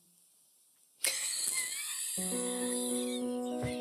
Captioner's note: laughs